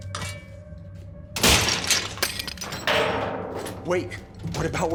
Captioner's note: metal clatters